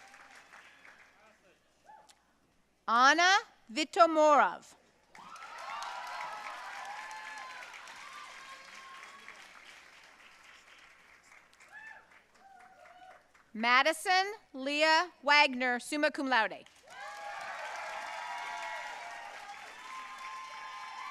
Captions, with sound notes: Ana Vitomirov. (audience cheering and applauding) Madison Leah Wagner, summa cum laude. (audience cheering and applauding)